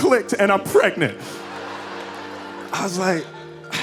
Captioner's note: audience laughing